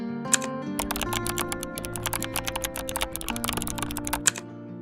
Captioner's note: keyboard clicking